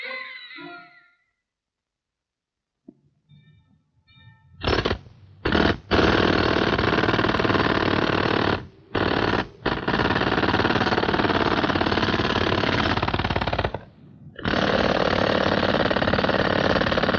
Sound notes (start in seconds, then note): 4.5 chisel pounding